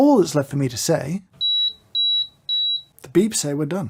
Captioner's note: three spicy beeps